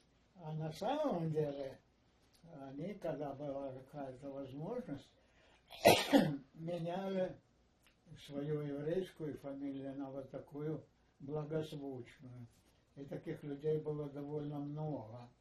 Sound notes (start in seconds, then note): 5.7 coughing